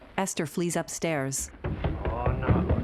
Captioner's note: footsteps thudding